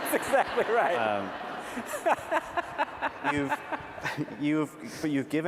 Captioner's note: laughter